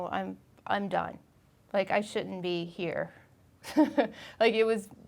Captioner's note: laughing